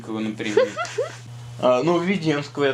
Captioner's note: laughs